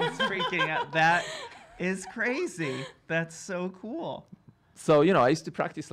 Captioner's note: laughing